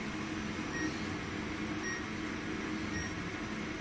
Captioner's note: computer beeps